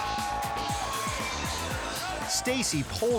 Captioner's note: air whoosh; audience cheering